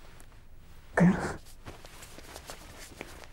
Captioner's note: Gasps